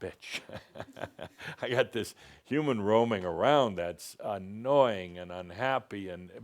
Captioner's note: chuckles